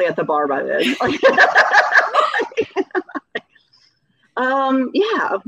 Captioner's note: laughing